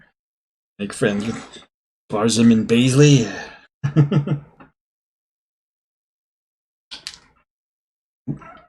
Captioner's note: chuckles